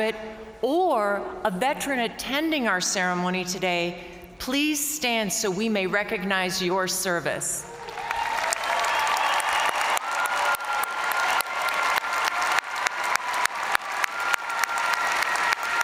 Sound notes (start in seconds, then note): 7.6 crowd cheering; 7.7 crowd applauding